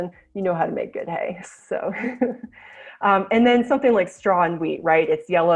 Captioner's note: chuckles